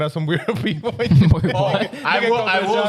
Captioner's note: laughing